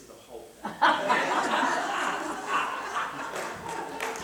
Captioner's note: laughter